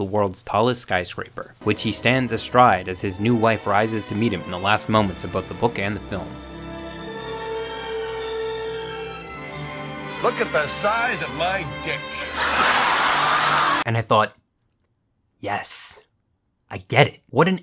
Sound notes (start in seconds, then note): 6.8 sweeping romantic music; 12.8 audience laughs